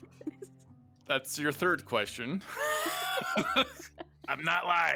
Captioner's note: laughs